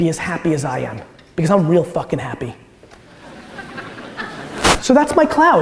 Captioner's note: audience laughter